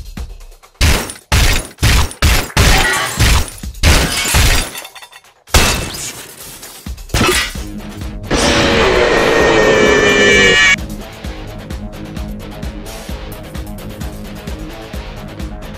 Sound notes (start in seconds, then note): 8.3 Nightmare Animatronic Roar